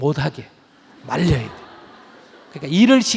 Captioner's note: audience Laughter